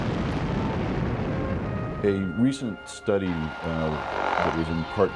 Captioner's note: nuclear blasts